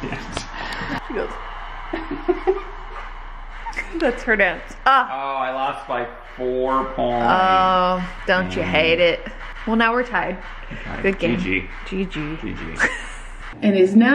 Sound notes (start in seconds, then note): 1.5 laughing; 12.8 laughing